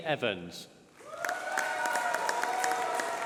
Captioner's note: applause